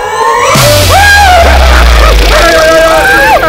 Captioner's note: Screams